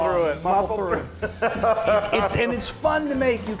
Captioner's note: laughs